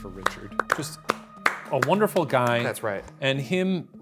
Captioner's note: hands clapping